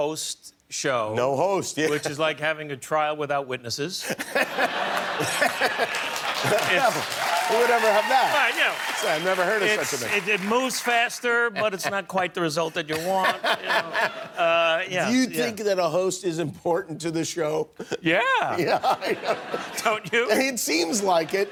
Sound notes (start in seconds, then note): 9.2 laughter